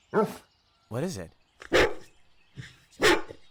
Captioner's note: barks